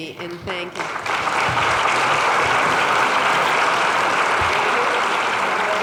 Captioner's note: clapping